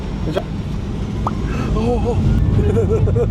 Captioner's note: engine getting louder